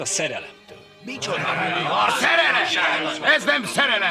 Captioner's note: grumbling